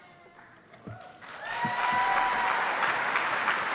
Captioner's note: applause